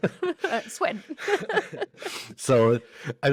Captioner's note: both laugh